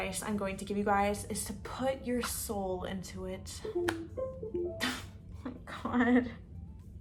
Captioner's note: windows computer noise